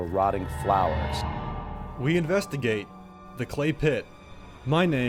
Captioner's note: voiceover